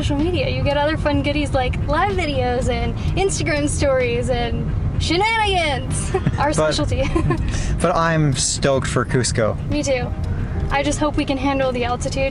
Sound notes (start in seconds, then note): 6.0 laughter